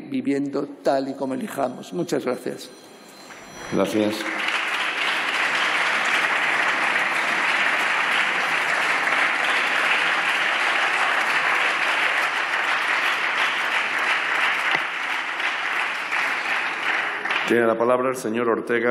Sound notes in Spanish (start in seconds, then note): 5.6 Aplausos